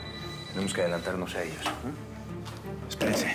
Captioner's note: suena el celular